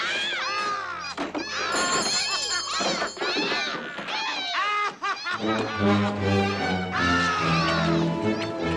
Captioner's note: laughs with maniacal glee